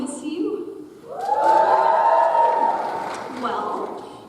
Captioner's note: graduates cheer